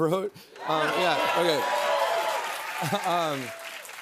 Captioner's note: cheers and applause